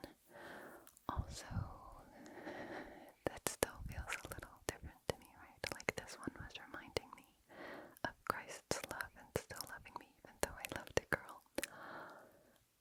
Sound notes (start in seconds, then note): 11.6 gasp